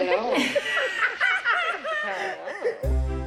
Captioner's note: laughing